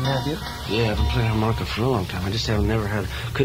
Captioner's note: voiceover